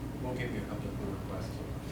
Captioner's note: voiceover